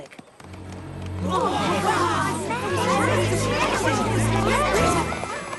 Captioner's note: excited murmuring